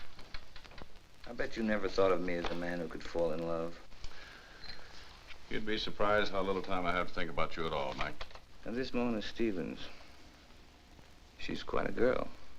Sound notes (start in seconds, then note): none